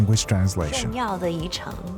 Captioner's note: speaking in foreign language